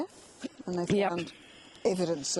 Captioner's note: coughs